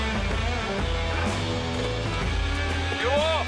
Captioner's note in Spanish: Ruido de la avioneta